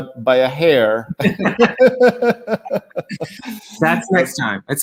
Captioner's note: both laughing